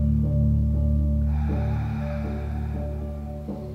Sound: exhales

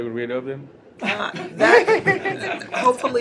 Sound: laughter

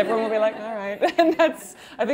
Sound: laughing

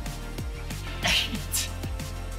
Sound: struggling

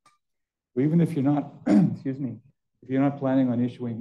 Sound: clears throat

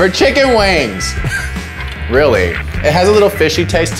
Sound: laughs

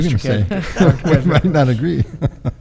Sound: laughs

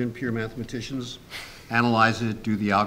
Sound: snickers

